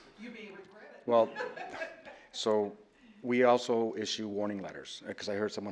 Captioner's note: laughter